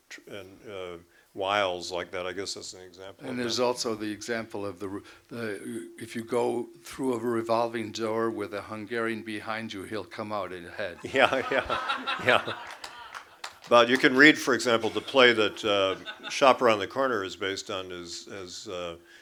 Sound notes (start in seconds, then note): 11.0 laughter